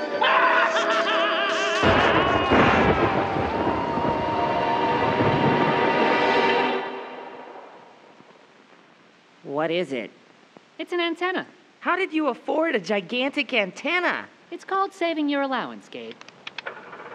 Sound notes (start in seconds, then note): 0.0 laughing maniacally; 1.5 thunder crashing; 16.6 machine whirring